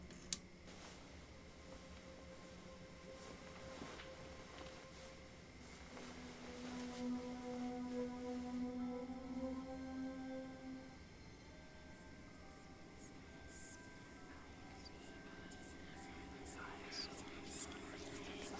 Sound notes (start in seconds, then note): 6.6 soft dramatic music; 13.9 eerie whispering